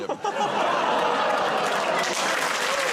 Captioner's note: applause; audience groans